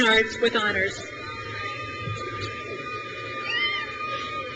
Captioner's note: crowd cheers